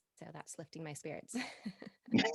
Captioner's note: both laughing